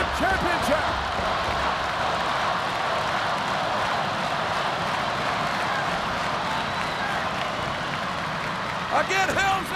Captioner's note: applause